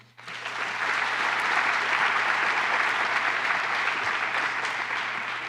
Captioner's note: applause